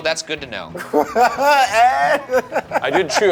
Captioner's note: laughs